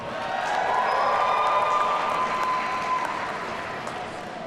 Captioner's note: audience cheering